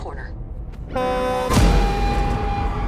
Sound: horn blows

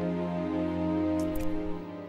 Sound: slice-y noises

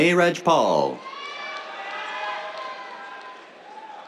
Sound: cheers, applause

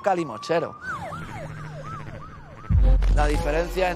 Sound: sirens

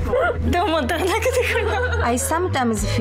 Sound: laughs; woman laughs; speaking foreign language

